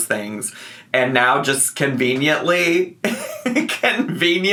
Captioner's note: laughs